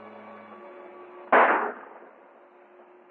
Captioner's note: gunshot